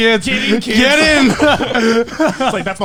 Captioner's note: laughs